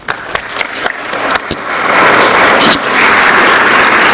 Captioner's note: crowd clapping